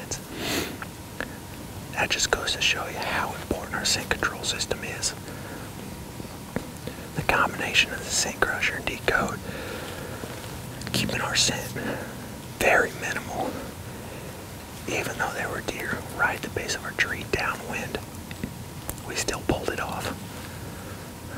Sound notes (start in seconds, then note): 5.8 whispering